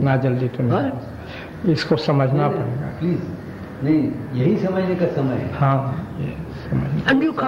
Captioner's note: discussion in Hindi